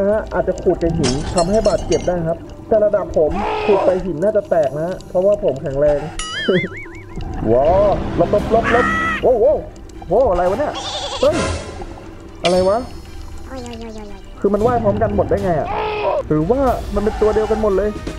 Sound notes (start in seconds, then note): 6.2 chuckles